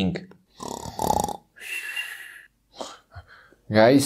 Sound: Bugs snoring

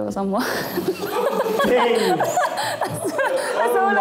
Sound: laughing

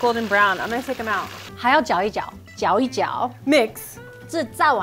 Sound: speaking in mandarin

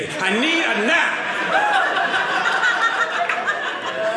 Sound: audience laughing

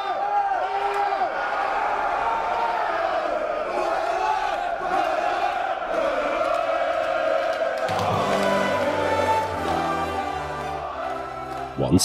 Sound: fans shouting/Rooting

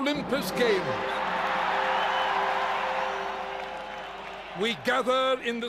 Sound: audience cheers

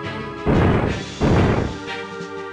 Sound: clonks

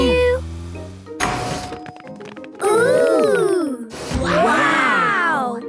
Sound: door dings open

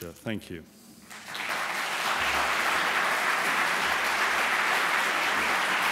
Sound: applause

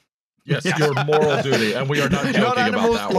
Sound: laughter

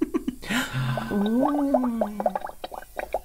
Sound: gasps of Wonder

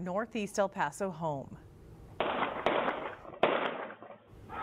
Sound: gunshots

